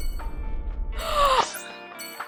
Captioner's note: gasps